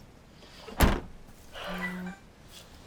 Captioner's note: car boot thuds; phone chimes